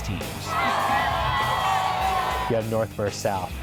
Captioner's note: crowd cheers